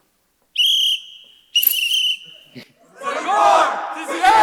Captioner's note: whistle shrills